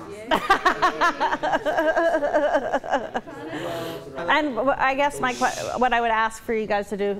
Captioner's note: laughter